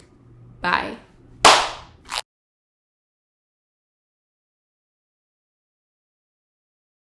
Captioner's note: clap